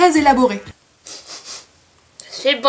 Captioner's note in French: snif